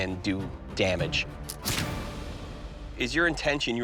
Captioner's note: gunshot